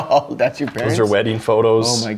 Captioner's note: chuckles